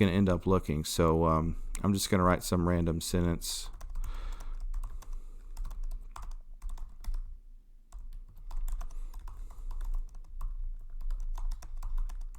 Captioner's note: typing